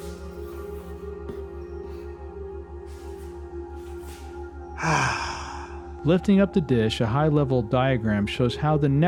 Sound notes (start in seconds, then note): 4.8 sigh of happiness